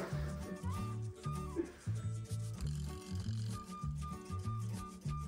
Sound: laughs

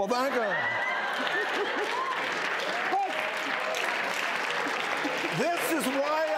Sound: audience applauding

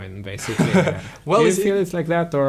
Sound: laughs

